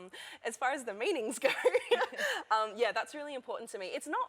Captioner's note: laughter